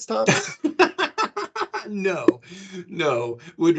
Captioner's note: laughing